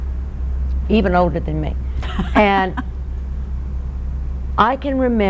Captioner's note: laughter